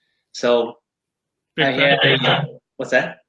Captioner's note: microphone feedback